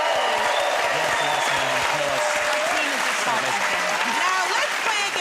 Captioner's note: cheers and applause